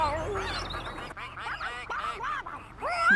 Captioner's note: ducks Quacking